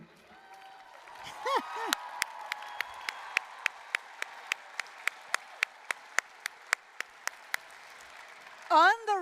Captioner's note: applause, cheering